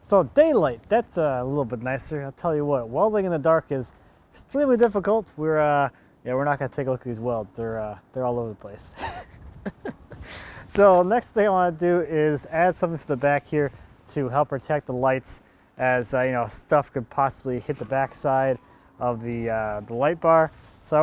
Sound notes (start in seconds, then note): 9.6 laughing